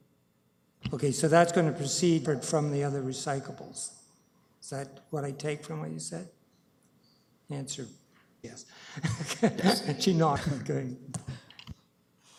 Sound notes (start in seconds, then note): 8.8 laughs